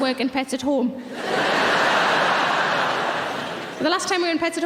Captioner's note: audience laughing